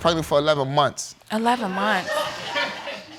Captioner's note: audience laughing